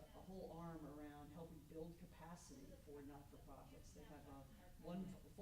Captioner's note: stammers